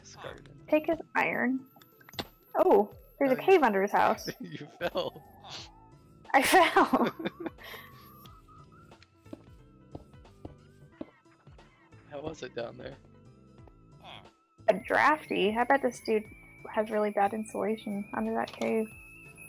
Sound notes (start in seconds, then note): 2.0 leg snap sound